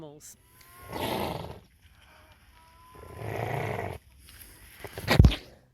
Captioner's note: snorting, growling wombat sounds